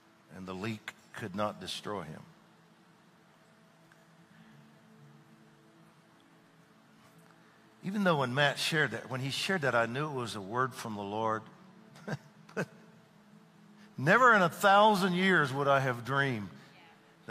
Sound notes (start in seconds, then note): 11.9 chuckles